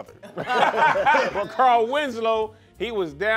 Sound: laughing

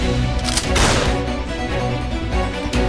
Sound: gunshot

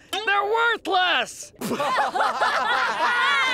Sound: laughing

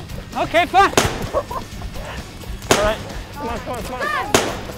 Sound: water gun shooting

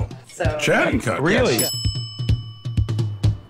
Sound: bell dings

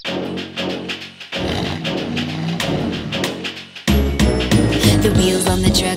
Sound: upbeat music; engine rumbles

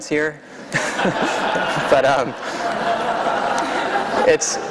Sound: laughter

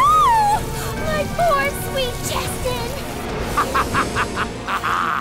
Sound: evil laughter

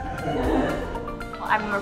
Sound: family laughs

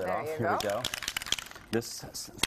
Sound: rattling sound

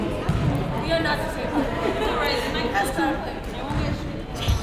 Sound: crowd conversing

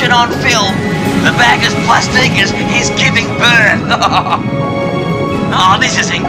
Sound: laughs

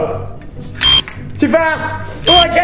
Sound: beep; beep; continues to beep

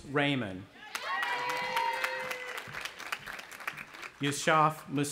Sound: cheering

